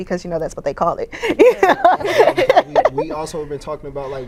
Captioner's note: laughs